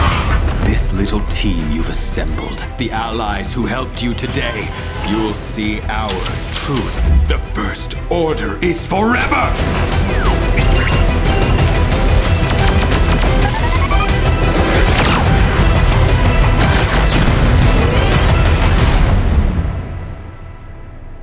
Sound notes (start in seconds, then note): 10.6 beeps; 11.5 dramatic music